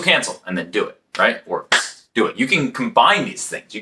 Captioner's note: clap